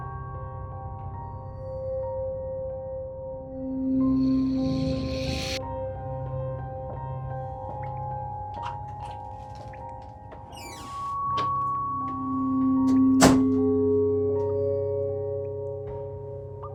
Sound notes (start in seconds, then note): 0.2 eerie music continues; 9.0 pills rattling